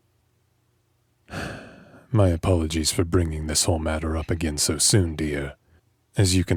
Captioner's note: sigh